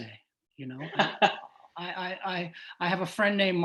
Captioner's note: laughs